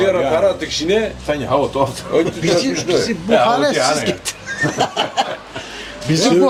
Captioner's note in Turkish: kahkaha